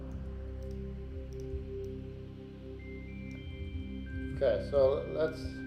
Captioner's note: gentle music; mouse clicking